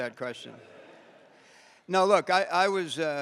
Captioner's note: audience laughing